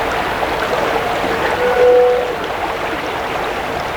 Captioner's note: short scraping sound; rushing water continues